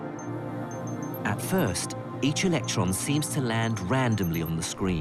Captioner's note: voiceover